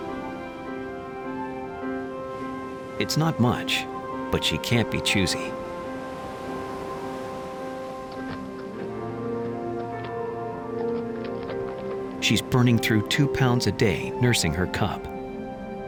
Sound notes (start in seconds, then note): 9.1 light music; 9.1 wind whistling